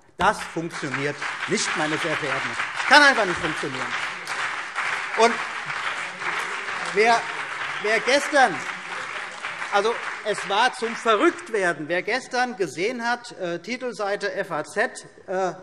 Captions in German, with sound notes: Das funktioniert nicht. Das kann einfach nicht funktionieren. [Beifall CDU und BÜNDNIS 90/DIE GRÜNEN] Es war zum Verrücktwerden. Gestern war auf der Titelseite der „FAZ“ zu lesen: